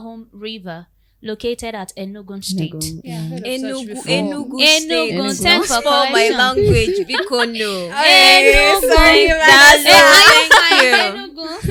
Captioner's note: laughter